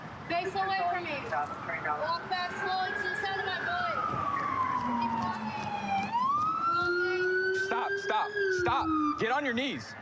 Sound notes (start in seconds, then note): 3.9 sirens